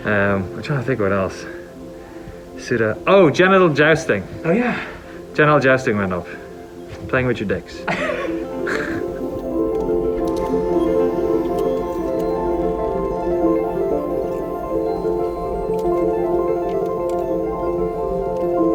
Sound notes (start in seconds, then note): 7.8 laughs; 10.5 somber music